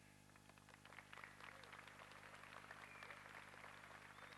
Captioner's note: applause